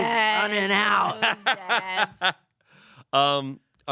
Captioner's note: laughs